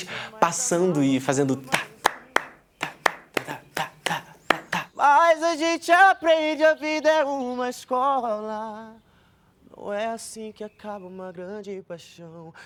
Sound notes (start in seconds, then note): 1.6 claps to the rhythm of samba